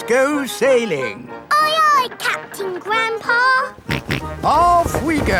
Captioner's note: snorts